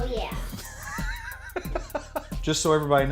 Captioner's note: laughs